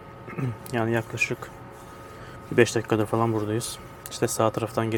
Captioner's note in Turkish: boğazını temizler